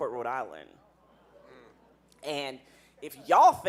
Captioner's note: audience murmuring